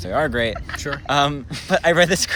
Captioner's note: laughs